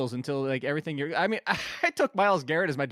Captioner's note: laughs